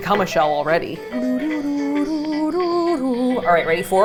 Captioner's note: humming